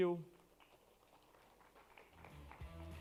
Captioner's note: applause